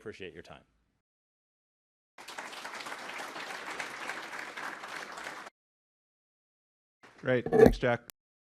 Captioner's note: applause